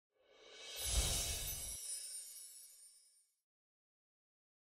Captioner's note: chimes ringing